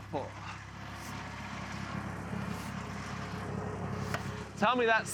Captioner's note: wood screeching